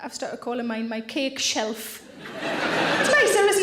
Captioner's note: audience laughing